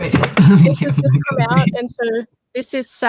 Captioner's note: laughs